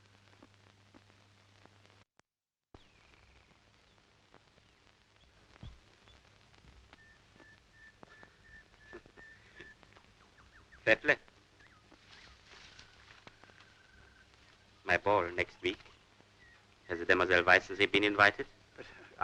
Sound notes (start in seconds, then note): 3.3 birds chirping